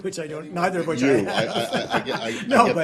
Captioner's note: laughter